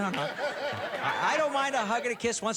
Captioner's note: laughter